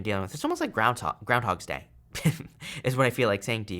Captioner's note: chuckles